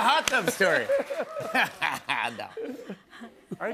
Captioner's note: laughs